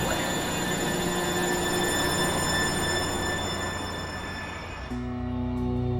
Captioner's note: airplane engine roaring; gentle music